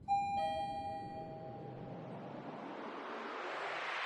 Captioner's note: elevator Bell